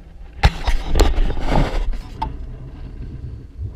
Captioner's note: GoPRO HINGE CREAKING